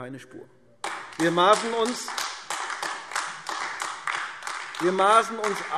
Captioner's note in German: Beifall AfD